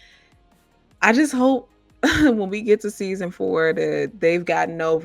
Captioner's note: chuckling